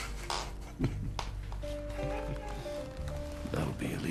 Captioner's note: chuckling